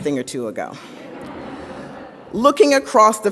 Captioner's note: audience laughs